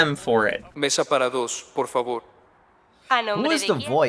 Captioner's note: man, speaking Spanish